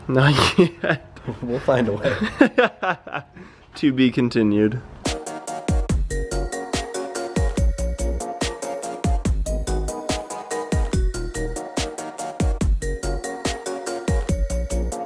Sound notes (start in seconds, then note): 1.8 man laughs; 5.5 upbeat music